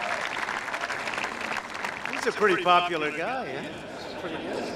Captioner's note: applause